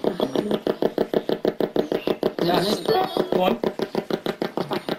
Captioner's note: ghost box buzzing